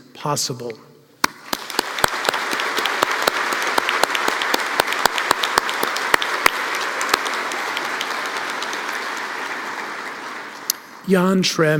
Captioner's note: applause